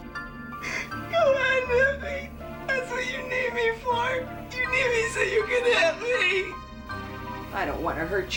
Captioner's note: crying